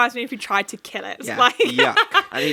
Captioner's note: laughs